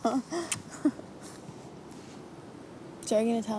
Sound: laughing

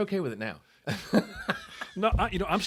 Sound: laughing

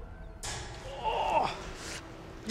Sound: grunt

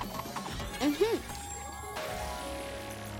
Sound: chiming

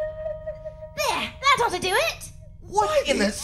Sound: British accent

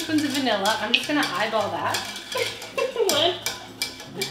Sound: chuckles

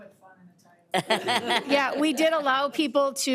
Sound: audience laughing

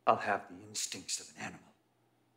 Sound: none

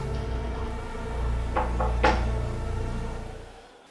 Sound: knock on the door

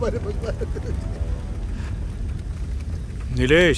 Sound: crying

